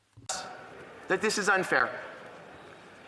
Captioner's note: speaking French